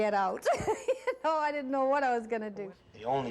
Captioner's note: laughing